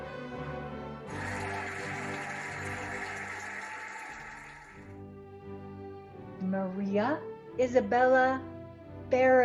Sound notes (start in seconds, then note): 1.1 cheering and applauding